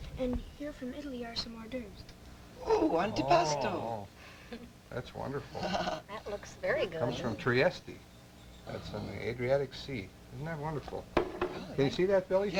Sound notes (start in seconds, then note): 5.6 laughs